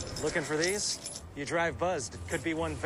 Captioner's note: keys jingling